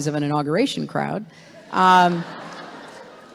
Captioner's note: laughter